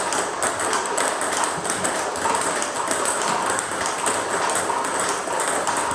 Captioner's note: ball ping pong hitting continues